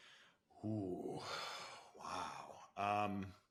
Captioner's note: sighs